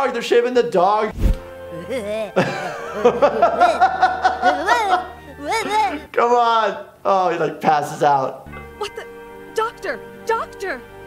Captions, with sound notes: They're shaving the dog. (laughing) - C'mon, oh he like passes out. - What the? Doctor, doctor.